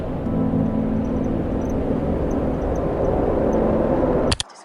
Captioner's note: car engine revving